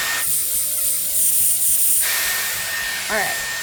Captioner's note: dryer whirs